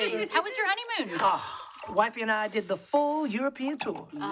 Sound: sighs

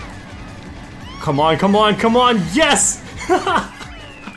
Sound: laughs

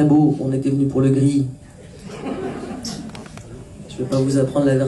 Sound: laughs

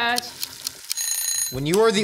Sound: alarm Ringing

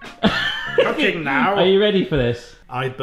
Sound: laughs

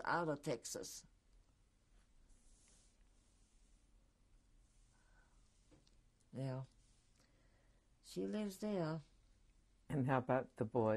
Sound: pauses for 6 seconds

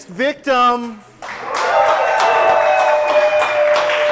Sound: cheering

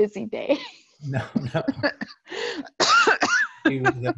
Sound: laughs

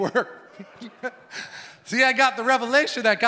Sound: laughs

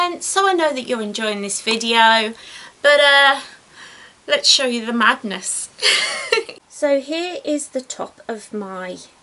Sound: laughs

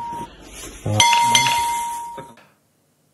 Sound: two dings

